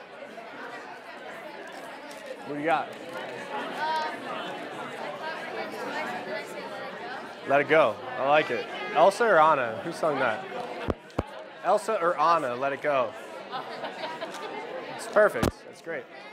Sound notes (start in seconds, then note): 13.5 laughing